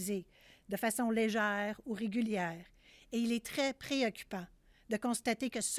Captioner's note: speaking French